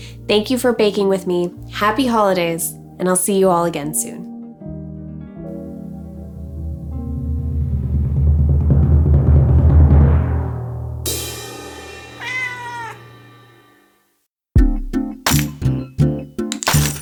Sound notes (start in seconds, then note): 6.0 percussion rumbling; 12.1 cat meow; 14.5 upbeat music